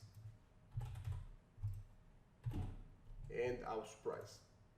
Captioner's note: typing clicks